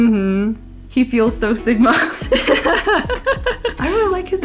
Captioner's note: laughs